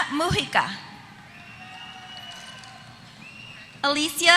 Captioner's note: applause